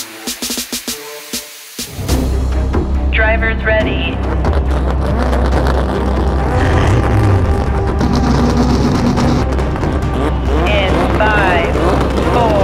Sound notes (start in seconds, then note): 2.5 intense orchestral music; 4.6 engines rev